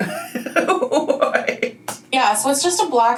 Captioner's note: laughs